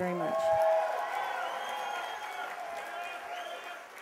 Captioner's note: cheers and applause